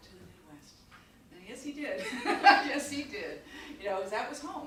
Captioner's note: chuckles